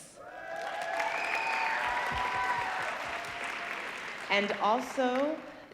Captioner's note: audience applauding